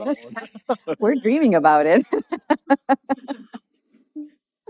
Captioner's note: laughs